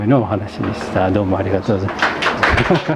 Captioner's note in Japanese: 笑い